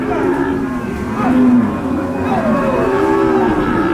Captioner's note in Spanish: vaqueros gritando